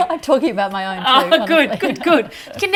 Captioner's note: laughing